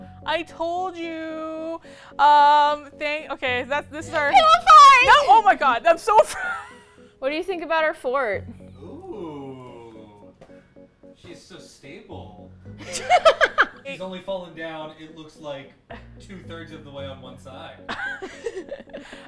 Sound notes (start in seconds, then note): 12.1 laughs; 17.9 laugh